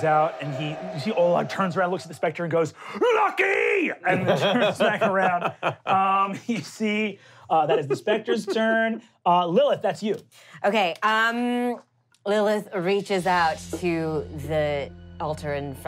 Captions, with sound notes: Olag reaches out and he, you see Olag turns around and looks at the specter and goes, Lucky! (laughing) And the two smack around. You see, that is the specter's turn. Lilith, that's you. - Okay, Lilith reaches out to the altar in front of her